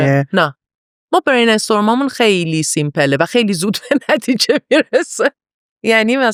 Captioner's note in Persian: خنده